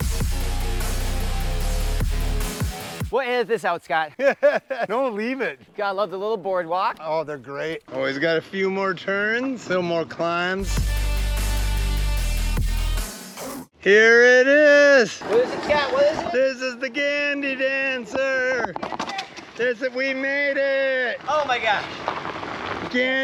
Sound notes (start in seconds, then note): 0.0 rock music; 4.0 laughs; 10.6 rock music